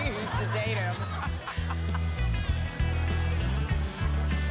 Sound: laughter

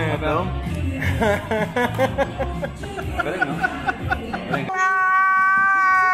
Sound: laughs

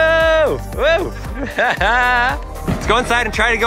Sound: laughing

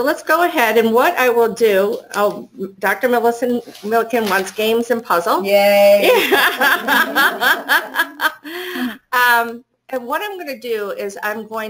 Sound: student in the class laughs, Yah; laughter

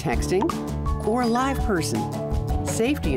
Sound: cellphone chirps; cellphone rings

